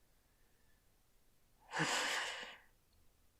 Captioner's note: growl